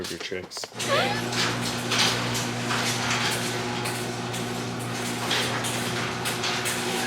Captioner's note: garage door rumbles; squeaks